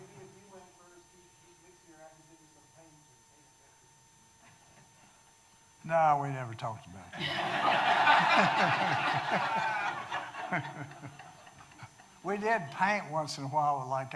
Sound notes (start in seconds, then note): 7.2 audience laughing